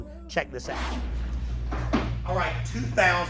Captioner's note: engines rumble distantly